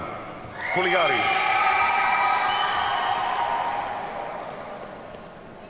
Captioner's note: audience cheers and applauds